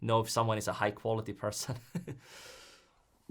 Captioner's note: chuckles